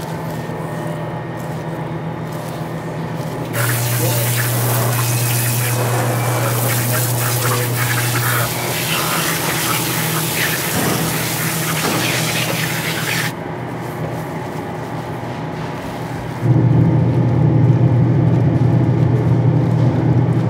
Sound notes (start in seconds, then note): 3.5 water spraying; 3.7 machinery humming; 16.5 machinery continues humming